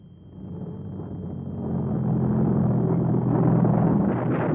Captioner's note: engines revving